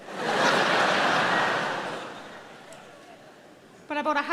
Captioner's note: audience laughing